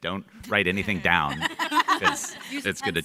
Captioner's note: panel members laughing